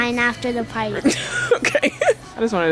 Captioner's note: laughs